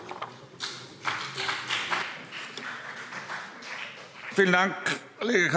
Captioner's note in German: Beifall BÜNDNIS 90/DIE GRÜNEN